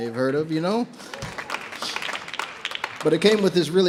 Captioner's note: audience members applaud